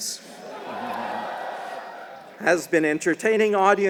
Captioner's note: applause